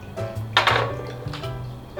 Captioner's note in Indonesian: duk!